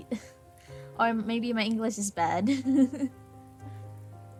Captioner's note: laughs; laughs